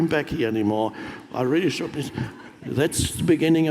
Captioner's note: audience laughs